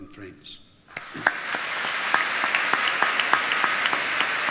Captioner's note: applause